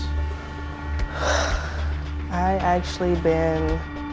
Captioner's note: sighs